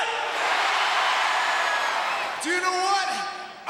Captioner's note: crowd cheering